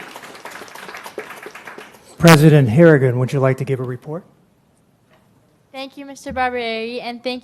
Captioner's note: applause